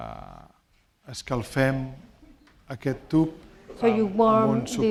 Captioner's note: speaking spanish